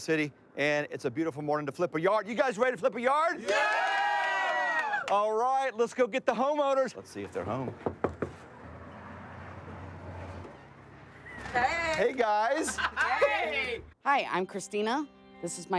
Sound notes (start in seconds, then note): 3.4 cheering